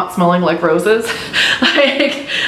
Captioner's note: laughs